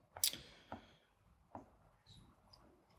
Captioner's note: none